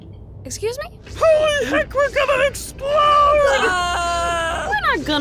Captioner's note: alarm blares, countdown continues; lifering screams